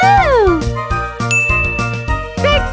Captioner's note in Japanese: チーン！